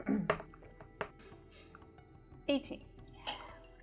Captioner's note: die rolling